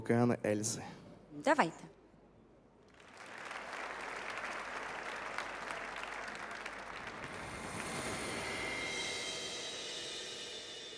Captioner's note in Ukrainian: оплески